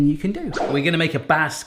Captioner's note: whoosh